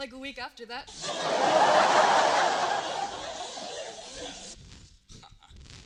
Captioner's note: laughter